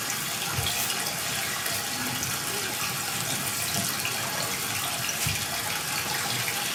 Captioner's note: water trickling continues